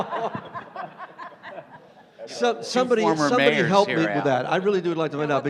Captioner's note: laughter